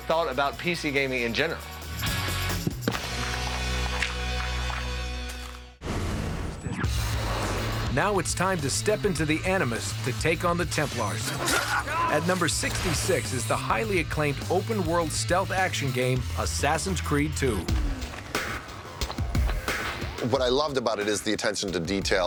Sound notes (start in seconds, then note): 4.5 digging; 12.5 slicing